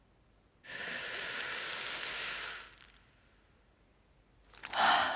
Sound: flame crackling

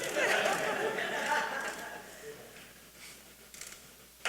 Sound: audience laughing

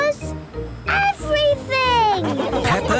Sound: laughing

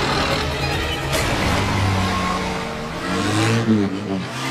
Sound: traffic blaring

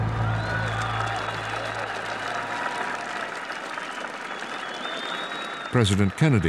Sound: crowd cheering

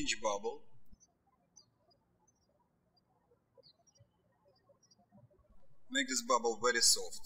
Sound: birds chirping

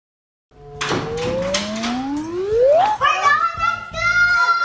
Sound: door clicks

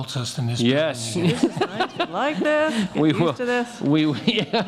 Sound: laughing

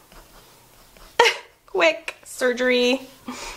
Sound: laughs

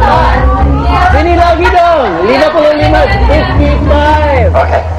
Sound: speaking indonesian

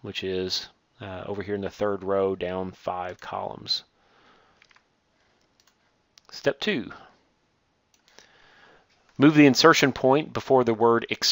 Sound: click

